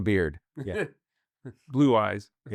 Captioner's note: laughs